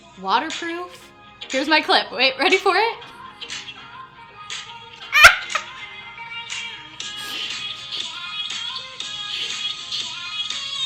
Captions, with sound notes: Waterproof, here's my clip ready for it? (upbeat music) (laughs loudly)